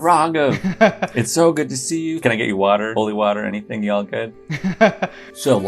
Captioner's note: laughter